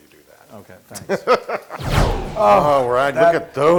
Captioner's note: laugh